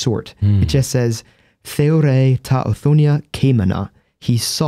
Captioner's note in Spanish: en griego